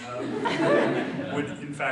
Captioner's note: audience laughs